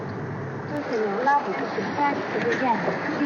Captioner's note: automated voice speaking in Chinese